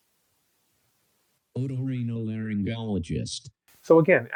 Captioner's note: AI speech